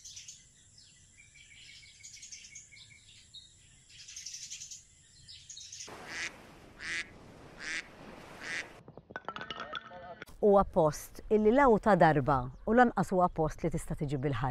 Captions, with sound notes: [ducks quacking] [wood clattering] is not one that can be covered in one short visit.